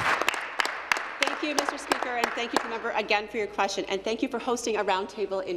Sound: applause

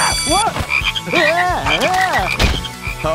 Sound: yelling

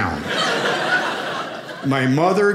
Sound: audience laughing

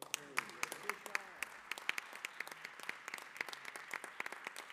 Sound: applause

